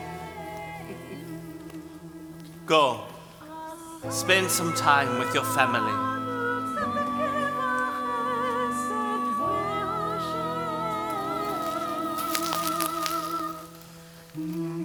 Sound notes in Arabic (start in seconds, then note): 5.9 بالعبري